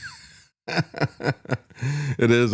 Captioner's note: laugh